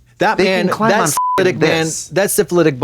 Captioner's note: beep